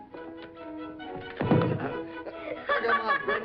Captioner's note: playful music; thuds